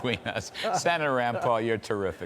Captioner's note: laughter